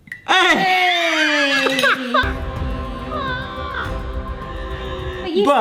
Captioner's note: howling laughter